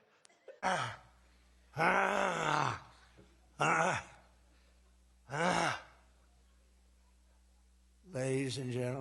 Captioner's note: guttural noise; guttural noises; more guttural noises